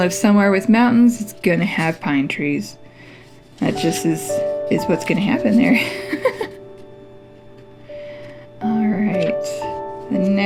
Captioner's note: laugh